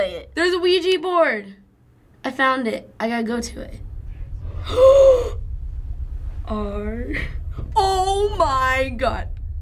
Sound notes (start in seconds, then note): 4.3 gasps